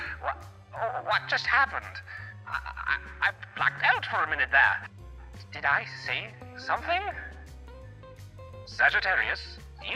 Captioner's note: gag and cough